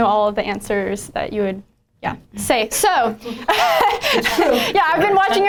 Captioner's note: laughs